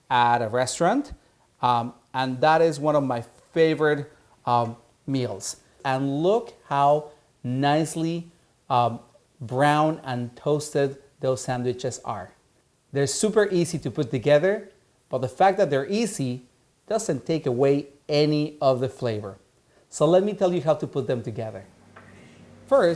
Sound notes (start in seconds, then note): none